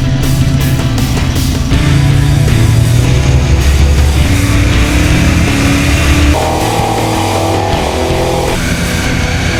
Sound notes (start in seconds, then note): 1.5 rock music intensifies; 1.7 engine revs loudly